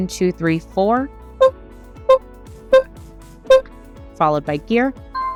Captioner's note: beeping